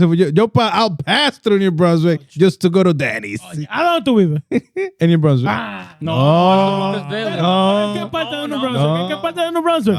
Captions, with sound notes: Yo pal, I'll pass through your brother just to go to Danny's. (Speaking In Foreign Language) No. (Speaking In Foreign Language)